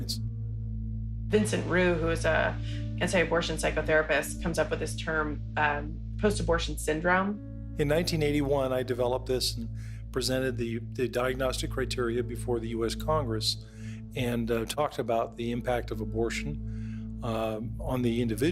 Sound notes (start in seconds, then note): 7.8 soundbite of archived recording